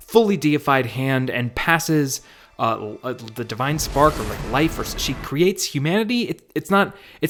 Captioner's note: hesitant tone